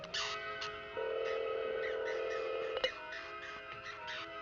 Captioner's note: phone ringing